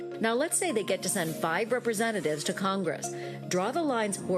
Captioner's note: none